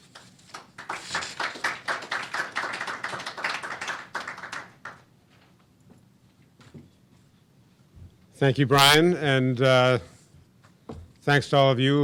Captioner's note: applause